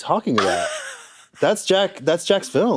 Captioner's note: snickers